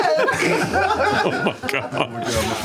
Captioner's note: laughter